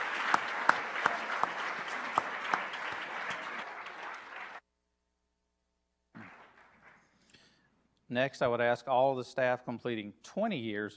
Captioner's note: applause